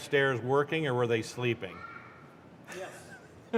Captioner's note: laughter